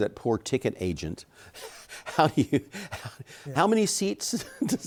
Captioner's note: chuckles